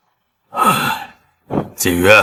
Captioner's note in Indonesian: Menghela napas